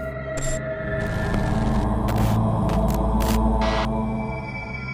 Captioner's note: ghostly murmuring